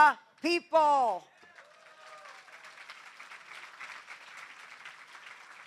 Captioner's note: applause